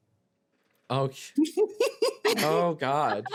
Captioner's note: laughing